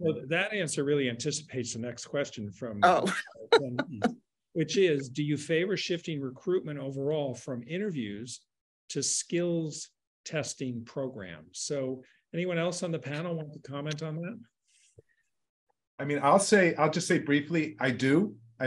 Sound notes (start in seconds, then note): 2.8 laughing